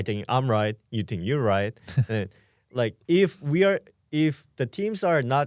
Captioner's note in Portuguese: risos